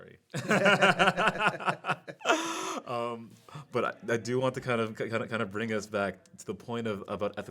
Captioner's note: laughing